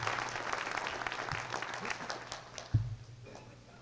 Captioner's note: applause